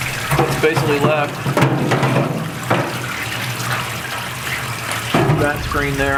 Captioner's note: water running; metal clanking